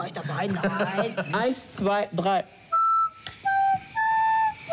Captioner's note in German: Lachen